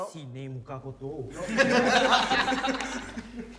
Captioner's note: everyone laughs